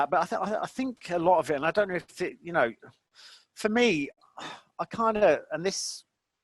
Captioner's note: sighing